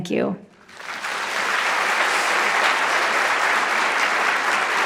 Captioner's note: audience clapping